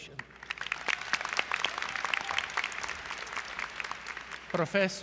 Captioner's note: applause